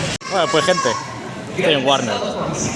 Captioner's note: aaaaaaaaaaaaaaaaaaaaa